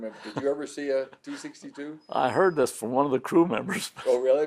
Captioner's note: laughs